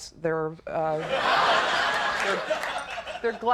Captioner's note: audience laughing